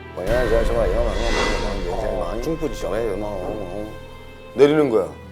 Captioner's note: the mysterious woman spoke in a foreign language